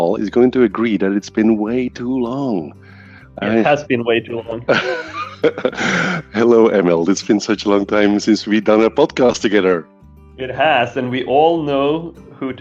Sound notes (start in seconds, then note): 4.6 laughing